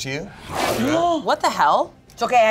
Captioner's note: wolf growls